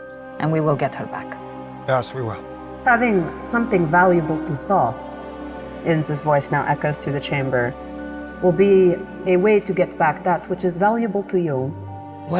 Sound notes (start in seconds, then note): none